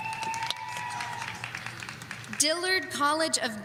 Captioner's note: audience cheering